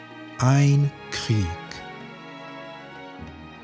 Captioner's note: german